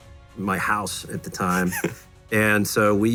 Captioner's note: laughs